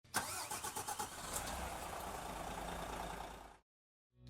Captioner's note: coach engine revving